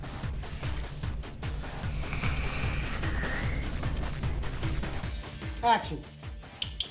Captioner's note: hiss